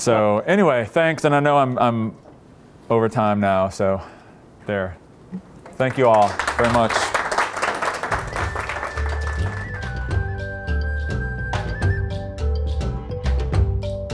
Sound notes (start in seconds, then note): 5.6 applause; 7.6 closing music